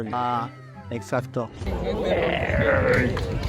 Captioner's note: robot sounds; applause